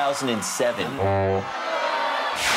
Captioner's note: honk; booing